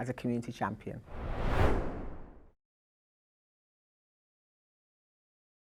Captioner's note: screen swooshing